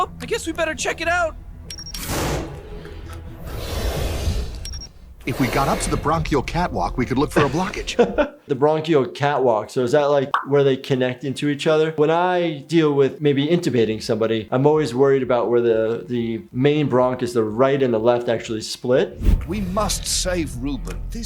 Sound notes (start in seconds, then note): 1.5 beeping; 1.7 whooshing